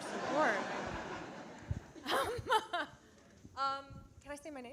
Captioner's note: audience laughing